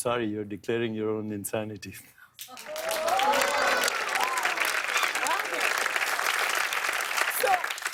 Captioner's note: audience "Oohs"; cheers and applause